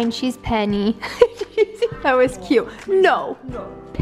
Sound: laughs

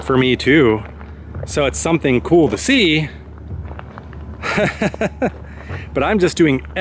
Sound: laughs

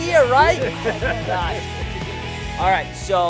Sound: laughing

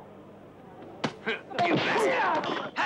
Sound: man grunts

